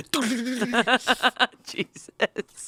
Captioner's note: laughs